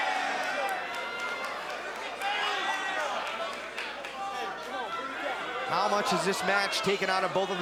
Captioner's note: crowd cheering